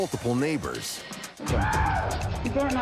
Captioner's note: neighbor screams